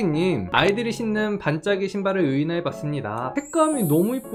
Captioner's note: voiceover